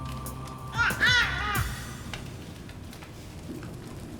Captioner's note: Brady coos